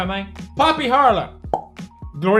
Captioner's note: pop